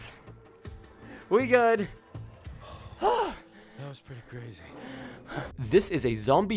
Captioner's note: deep breath